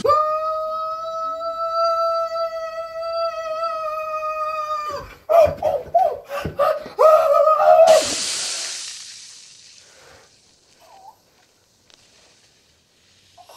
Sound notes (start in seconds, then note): 0.0 screaming; 6.6 yelling and Shrieking; 7.8 sizzling; 11.4 groaning